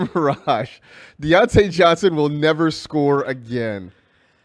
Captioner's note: laughs